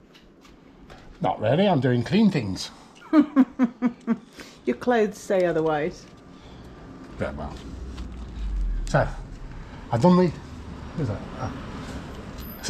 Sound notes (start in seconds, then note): 3.0 laughter